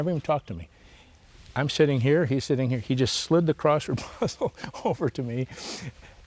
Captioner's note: laughs